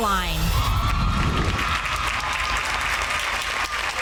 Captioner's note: girls cheering